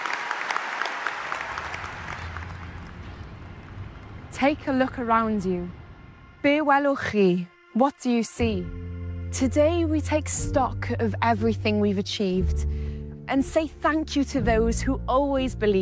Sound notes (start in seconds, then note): 0.0 applause